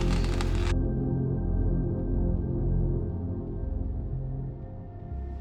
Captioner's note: spaceship hovering